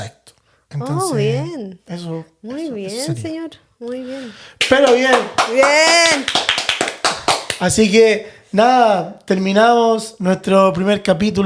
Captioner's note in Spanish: aplausos